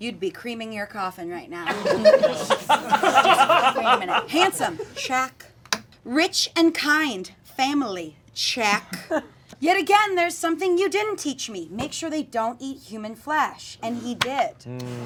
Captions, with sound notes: you'd be creaming your coffin right now. (audience laughing) Creaming it. Handsome? Check. Rich and kind family? Check. Yet again there's something you didn't teach me. Make sure they don't eat human flesh. and he did.